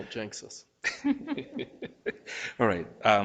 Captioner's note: group laughing